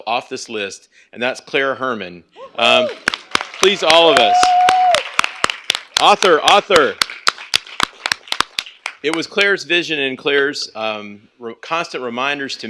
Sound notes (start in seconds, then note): 2.6 applause and cheering; 6.7 applause